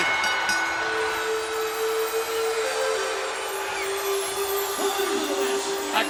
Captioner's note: bell rings; peaceful music